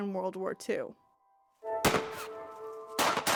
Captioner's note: gunfire